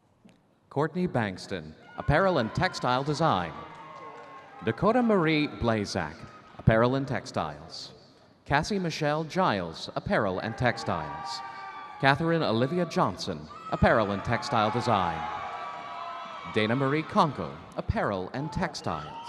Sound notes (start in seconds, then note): 13.4 audience cheering